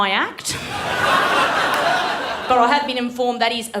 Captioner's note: laughter